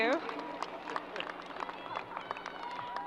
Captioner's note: crowd applause